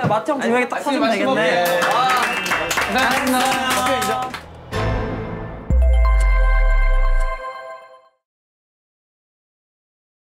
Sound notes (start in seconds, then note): 1.6 clap